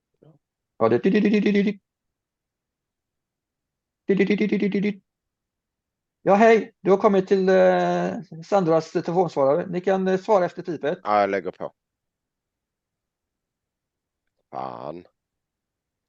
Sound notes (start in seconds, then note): 0.5 simulating a beeping ringing tone; 5.1 the nurse's voice of a answering machine